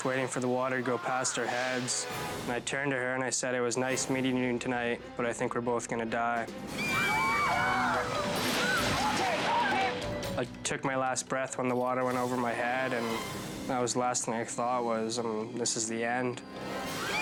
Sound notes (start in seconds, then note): 6.7 party guests screaming; 6.9 water splashing